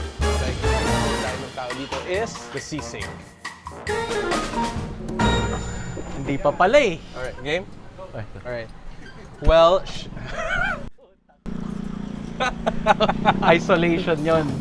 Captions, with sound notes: - What people come here for is the sisig. - It didn't start yet. - All right. Game? Well... (chuckles) (laughs) - That's isolation.